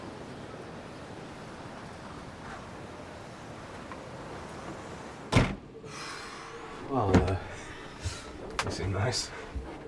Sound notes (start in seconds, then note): 5.3 closes door; 7.4 breathes deeply